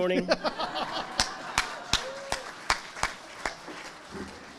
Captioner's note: all chuckle